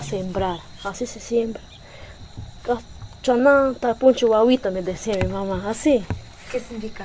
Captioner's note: repeated in the Kichwa language